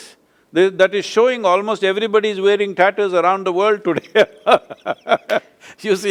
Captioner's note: laughs